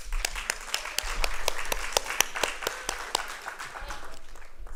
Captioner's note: applause